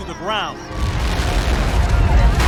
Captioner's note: explosion